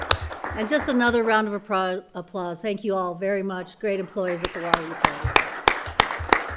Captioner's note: applause